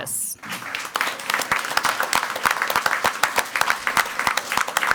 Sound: crowd clapping

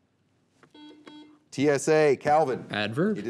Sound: buzzer beeping

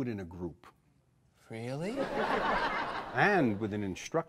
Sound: audience laughs

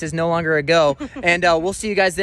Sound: laughing

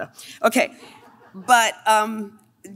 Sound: laughing

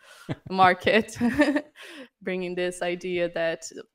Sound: laughter

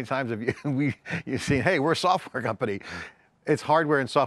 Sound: laughs

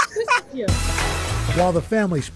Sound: laughter

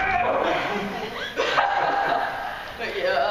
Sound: laughing

